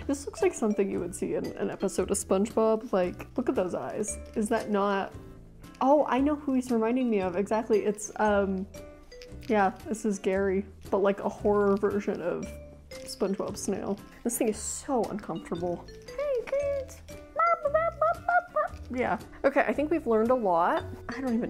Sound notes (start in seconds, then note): 16.5 snail speaking